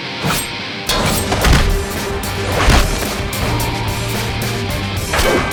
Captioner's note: intense rock music; blows thudding